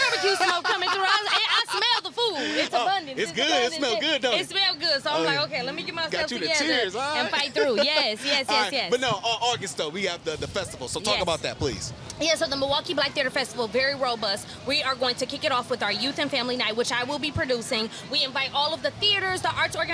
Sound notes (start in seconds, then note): 0.0 laughing; 7.2 laughs